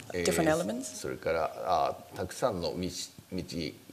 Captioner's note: speaking japanese